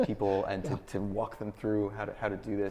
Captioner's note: laughs